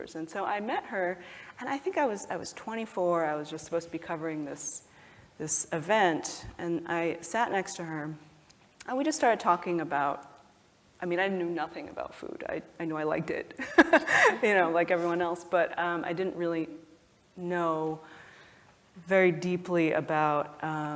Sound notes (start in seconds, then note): 13.7 laugh